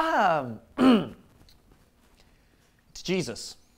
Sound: clears throat

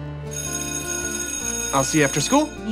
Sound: bell ringing

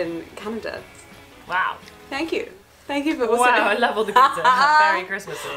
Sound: laughs

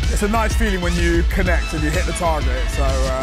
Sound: none

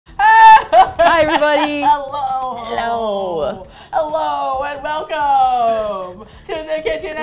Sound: laughs maniacally

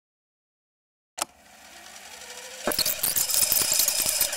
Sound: tape player clicking; tape whirring

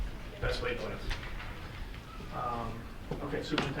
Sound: faintly speaking

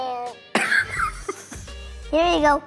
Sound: dad laughs

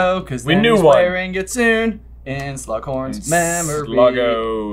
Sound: sing-song

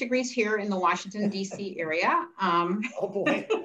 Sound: laughs

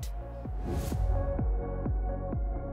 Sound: whoosh

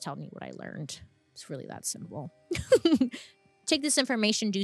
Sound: chuckles

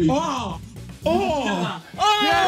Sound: all groaning and cheering

